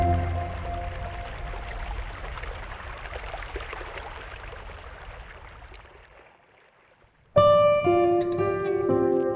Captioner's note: water flowing